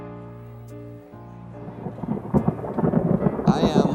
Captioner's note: thunder